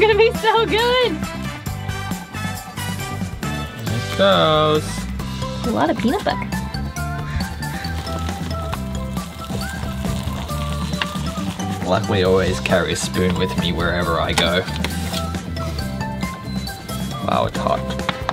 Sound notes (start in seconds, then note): 7.9 water trickling